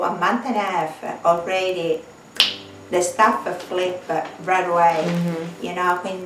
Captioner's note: snap